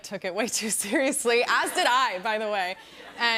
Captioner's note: laughter